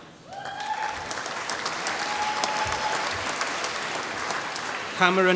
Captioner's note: applause